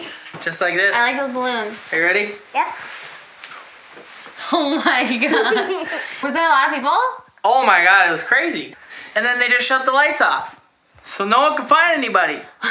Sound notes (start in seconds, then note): 4.4 laughs